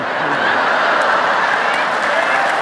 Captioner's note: audience laughing; audience applauding